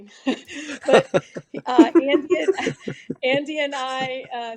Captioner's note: laughing